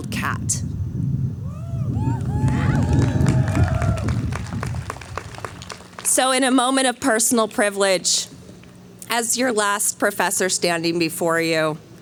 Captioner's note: cheering